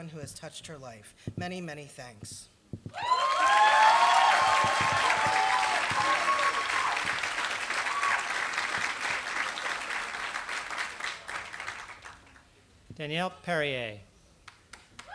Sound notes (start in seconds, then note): 3.0 applause